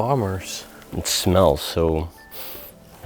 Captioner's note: sniffling